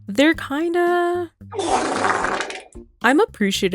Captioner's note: fart sfx